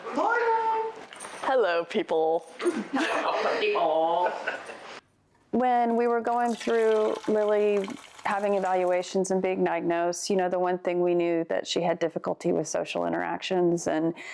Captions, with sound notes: - Good morning. - Morning. Hello, people. (participant chuckles) - All. (participant laughs) - When we were going through Lily having evaluations and being diagnosed, you know, the one thing we knew that she had difficulty with social interactions,